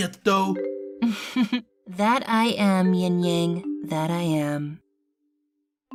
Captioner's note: chuckles